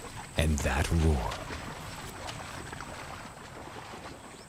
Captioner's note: water whooshing